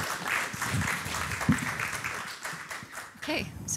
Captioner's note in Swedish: Applåder slutar